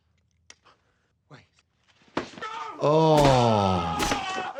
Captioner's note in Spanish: grita